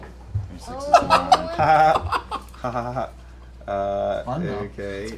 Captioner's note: weak laughter